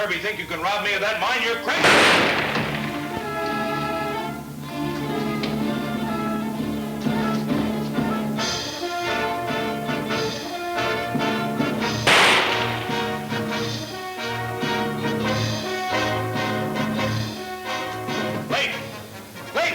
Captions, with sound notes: you're crazy! (gun firing) (tense orchestra music) (gun firing) - Lafe, Lafe!